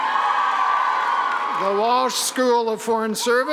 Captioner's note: cheering